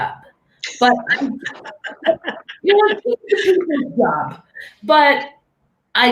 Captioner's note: laughing